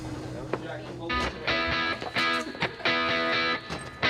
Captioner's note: indistinct chatter